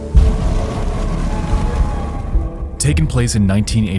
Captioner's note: fire crackling